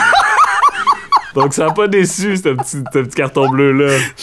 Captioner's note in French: éclat de rire